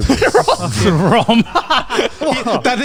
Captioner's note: laughs